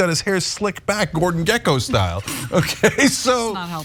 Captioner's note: laugh